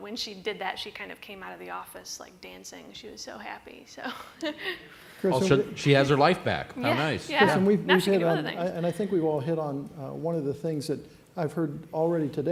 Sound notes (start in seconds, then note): 4.0 laughter; 8.4 laughs